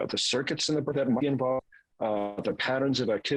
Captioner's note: voice cracks